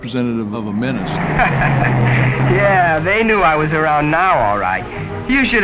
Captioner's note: laughs